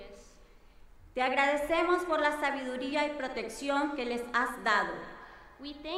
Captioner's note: speaking in foreign language